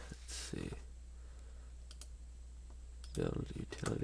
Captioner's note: click